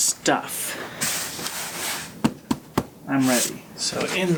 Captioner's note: pats on cardboard box